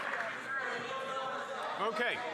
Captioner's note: applause